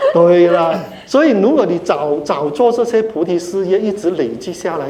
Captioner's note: laughter